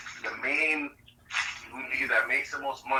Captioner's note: none